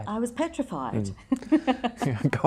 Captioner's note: both laugh